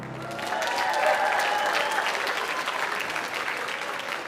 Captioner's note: audience applauding